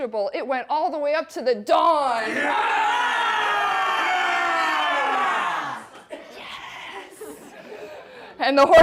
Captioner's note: audience shouts